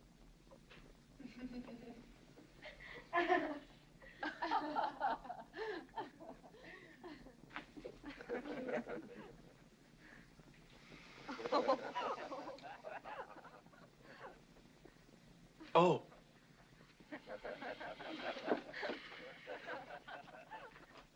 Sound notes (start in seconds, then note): 1.2 women laughing; 11.2 women giggling; 17.1 women laughing